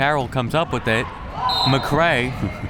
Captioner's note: whistle